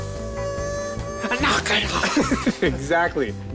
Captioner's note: laughing